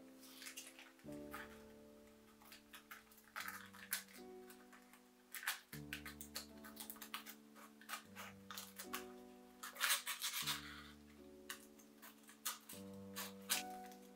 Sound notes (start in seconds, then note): 1.8 gentle paper cutting